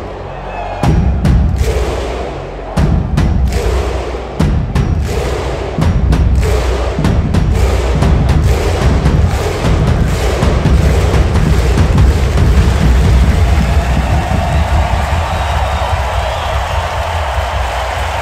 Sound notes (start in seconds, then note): 0.0 crowd cheering; 0.2 rhythmic percussion music; 8.0 intense percussion music; 8.0 muffled crowd grunting; 14.0 crowd cheering